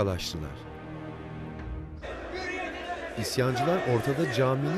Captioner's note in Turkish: Hep bir ağızdan